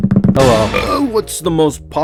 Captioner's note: burp